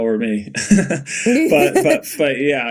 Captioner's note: Bode laughing; Mikaela laughing